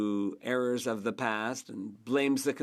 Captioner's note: speaking French